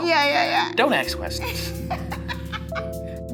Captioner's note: laughter